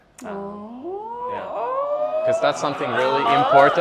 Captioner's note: crowd cheering